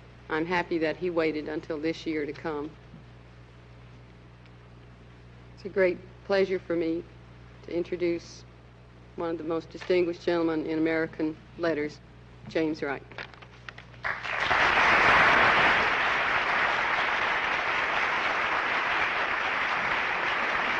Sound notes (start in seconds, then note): 14.0 applause